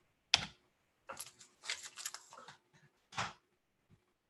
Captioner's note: keyboard tapping